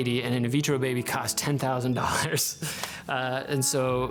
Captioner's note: laughs